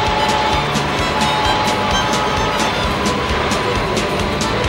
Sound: whistle blowing

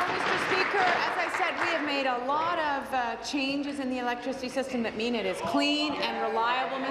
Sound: applause

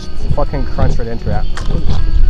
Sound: crunch

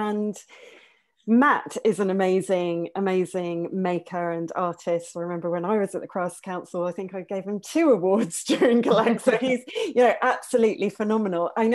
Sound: laughs

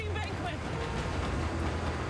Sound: helicopter blades whirring

